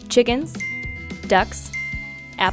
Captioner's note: ding